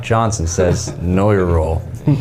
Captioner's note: chuckling